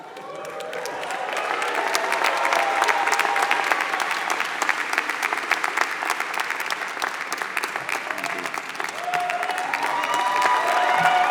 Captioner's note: applause